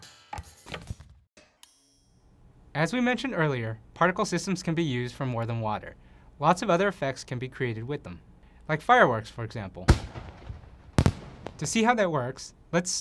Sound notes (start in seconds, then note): 0.2 bouncing; 9.9 explosions